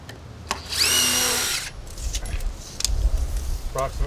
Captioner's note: machine revving